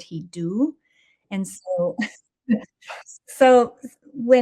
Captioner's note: chuckles